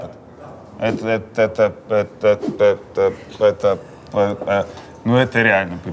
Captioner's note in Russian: Дудь, заикаясь